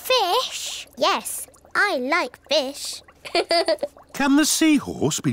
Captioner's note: laughs